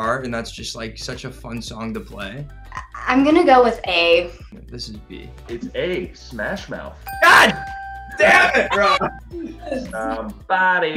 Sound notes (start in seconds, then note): 7.0 bell dings